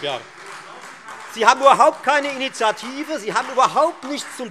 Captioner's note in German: Beifall Freie Demokraten und SPD